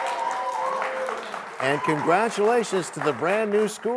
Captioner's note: cheers and applause